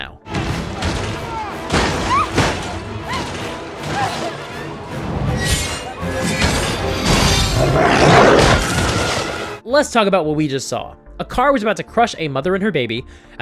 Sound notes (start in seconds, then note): 0.3 screams; 7.2 growl